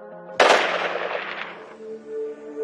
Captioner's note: gunshot